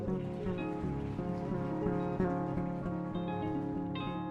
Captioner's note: audience applauding